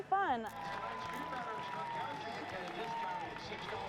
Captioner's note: crowd cheering